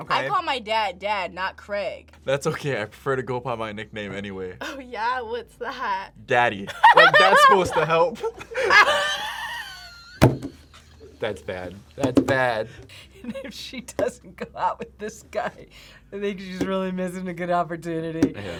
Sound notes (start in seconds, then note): 6.8 laughs